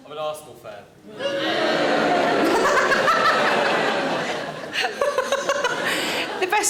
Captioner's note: audience booing; Sarah laughs